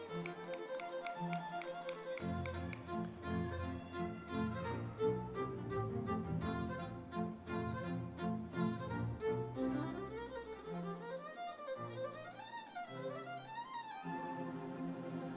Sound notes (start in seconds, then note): 0.3 classical orchestral music continues; 3.3 audience members cheering; 9.6 classical orchestral music continues